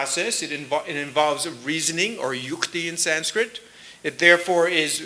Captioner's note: sanskrit